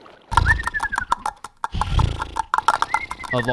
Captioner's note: pony sounds